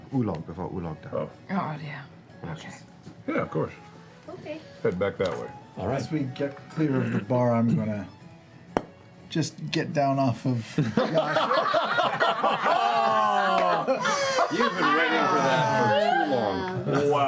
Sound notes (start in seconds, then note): 8.7 popping; 10.7 laughter